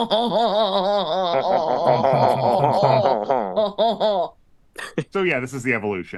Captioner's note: obnoxious laughter